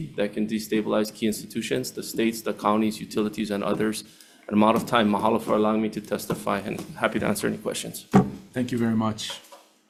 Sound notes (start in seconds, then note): 5.5 speaking in foreign language